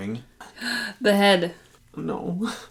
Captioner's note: gasp